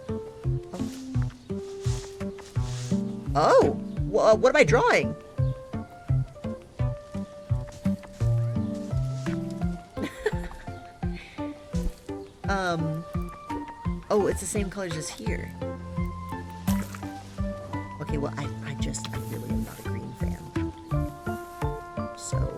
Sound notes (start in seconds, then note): 9.3 laughs